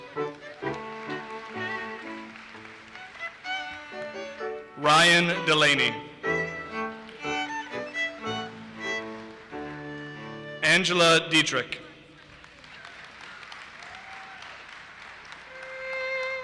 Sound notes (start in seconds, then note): 0.0 audience applauses; 6.7 audience applauses; 12.2 audience applauses